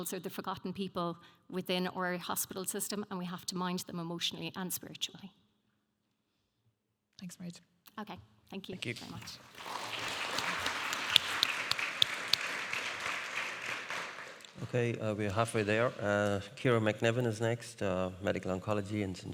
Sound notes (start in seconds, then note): 12.0 audience applauding